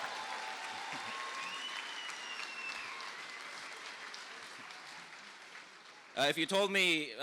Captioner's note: applause